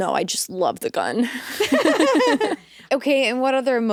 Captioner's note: both laughing